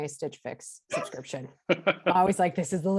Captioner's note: laughs